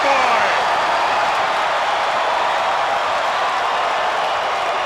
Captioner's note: crowd cheering